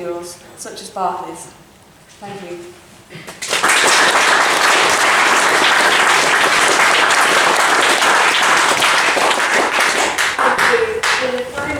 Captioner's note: applause